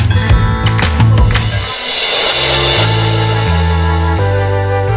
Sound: crash Sound

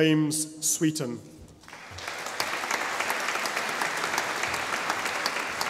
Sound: audience applauding

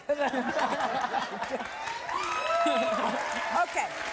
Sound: audience laughing and applause

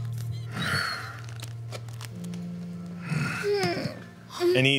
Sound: grunting noises

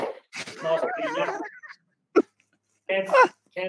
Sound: laughing

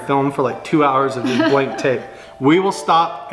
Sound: laughing

